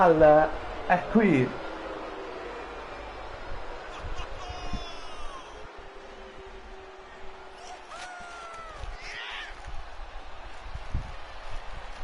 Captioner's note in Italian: Applauso